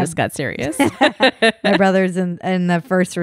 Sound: laughs loudly

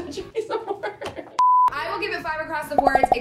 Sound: screen beep

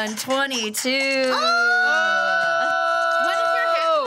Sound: group cheering

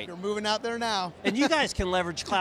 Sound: chuckles

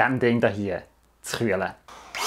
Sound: electric air duster

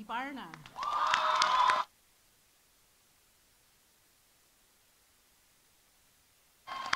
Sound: audience applauding; audience cheering

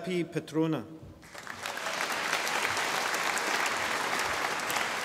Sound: audience applauding

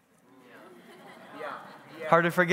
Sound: congregants bustling

